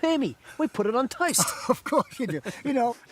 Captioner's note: laughs